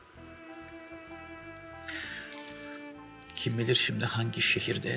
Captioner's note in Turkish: Telefon çalıyor